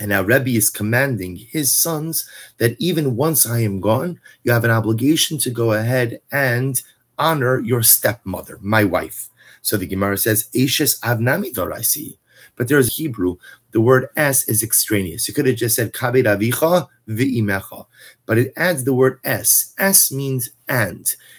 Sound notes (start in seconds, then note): 11.3 Hebrew